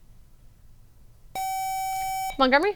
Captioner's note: buzzer